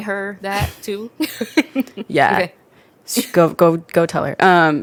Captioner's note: both laugh